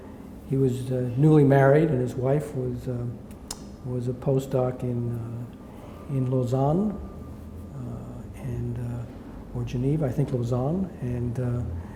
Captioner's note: smacks lips